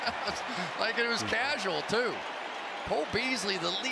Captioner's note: laughs